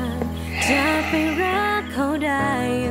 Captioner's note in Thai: เสียงถอนหายใจ